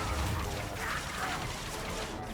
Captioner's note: gun firing